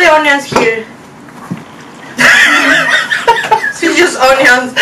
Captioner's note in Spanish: Risas